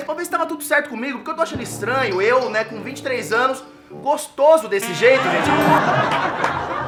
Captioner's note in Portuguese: risadas